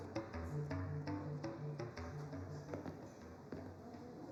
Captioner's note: people chattering